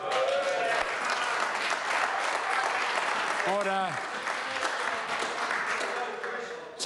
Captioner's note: members applaud